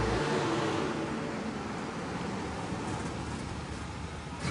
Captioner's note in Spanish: Sonido de las camionetas